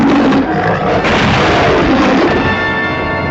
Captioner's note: roaring; bang!